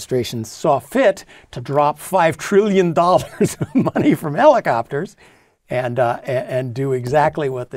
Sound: laugh

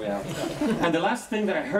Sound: laughing

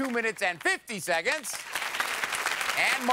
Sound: applause

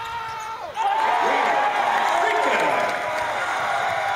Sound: cheers

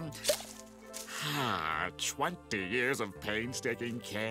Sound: sighing

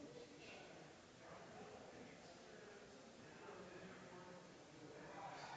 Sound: people chattering distantly continues

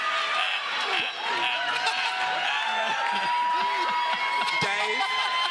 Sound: audience cheering

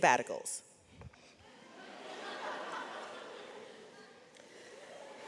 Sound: audience laughs

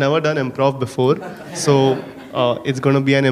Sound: audience laughing

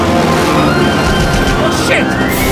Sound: gunshots

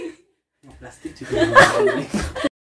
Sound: laughs

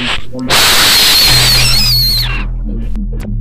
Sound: very loud wheezing noise

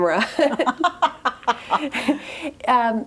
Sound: both laugh

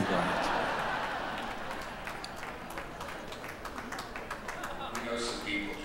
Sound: audience laughing and applauding

